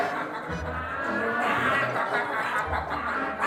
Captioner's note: laughing uncontrollably